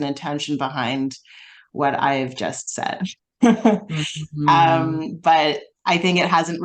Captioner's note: laughs